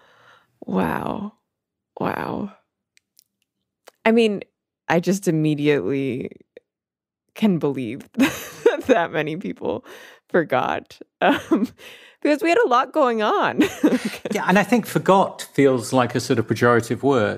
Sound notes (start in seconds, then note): 0.0 inhales; 9.5 laughs